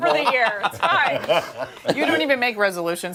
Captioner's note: laughter